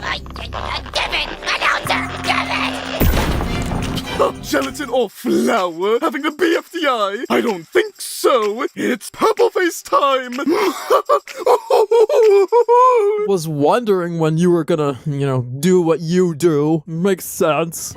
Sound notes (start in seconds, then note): 1.9 big crash; 10.5 evil laugh